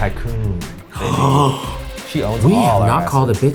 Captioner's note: gasps